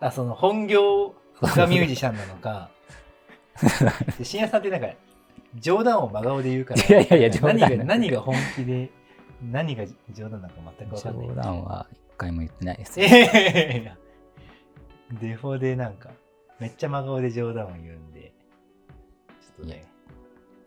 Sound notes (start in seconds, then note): 12.9 laughing